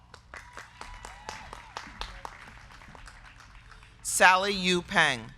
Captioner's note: crowd clapping; crowd cheering